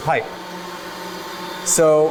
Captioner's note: pipes hum